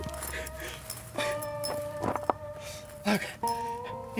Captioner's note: crying and shaking